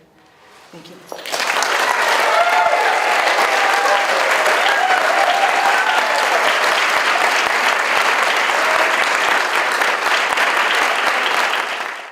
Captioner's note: audience applauds and cheers